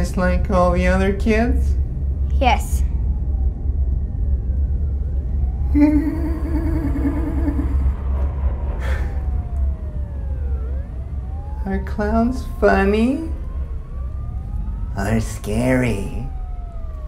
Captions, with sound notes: just like all the other kids? - Yes. (laughing) (sirens) - Are clowns funny or scary?